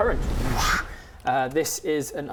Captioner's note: whoosch